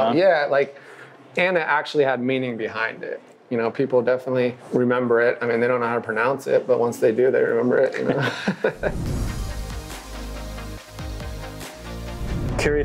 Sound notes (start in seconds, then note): 8.0 both chuckle; 8.8 upbeat music